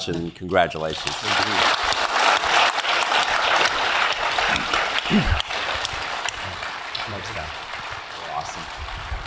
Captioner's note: applause